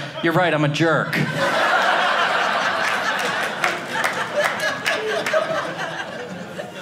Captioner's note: audience laughing